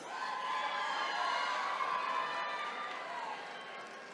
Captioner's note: attendees cheering